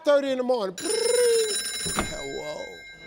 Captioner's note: mimics phone ringing